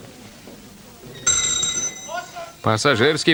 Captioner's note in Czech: zvonek a hlášení